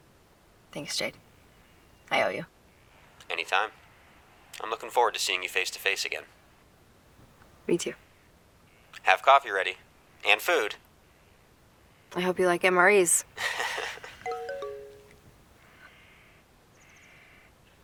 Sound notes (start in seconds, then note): 13.1 laughs; 14.2 phone chimes